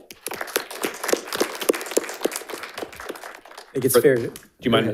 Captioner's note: audience applauding